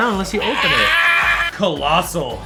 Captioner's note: screams